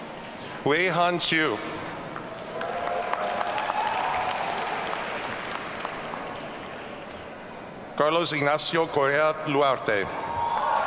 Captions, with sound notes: Weihan Chiew. (audience cheering) Carlos Ignacio Correa Luarte.